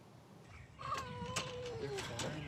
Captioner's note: cat meows